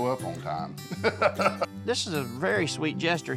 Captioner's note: laughs